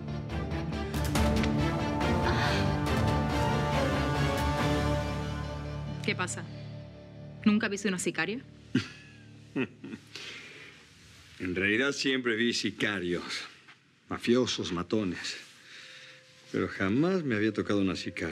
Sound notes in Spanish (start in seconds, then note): 9.5 risas